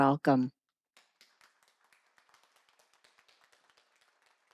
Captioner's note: audience clapping